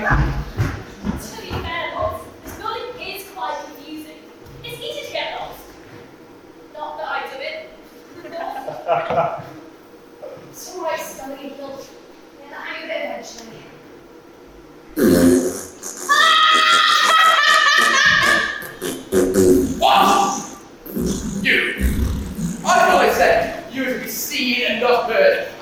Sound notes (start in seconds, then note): 14.9 fart noises; 20.3 fart noises continue